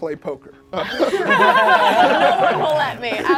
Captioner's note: group laughs